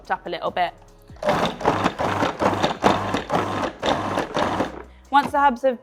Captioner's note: food processor whirring